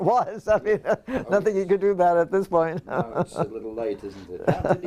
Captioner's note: laugh